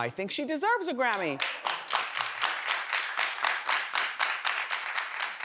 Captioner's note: audience claps